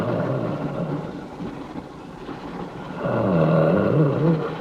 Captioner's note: snarling